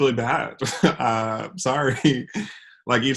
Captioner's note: laughs